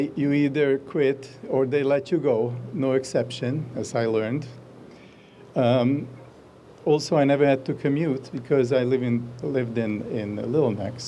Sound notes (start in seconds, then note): none